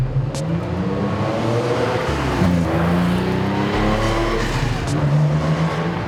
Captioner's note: dramatic electronic music; engine accelerating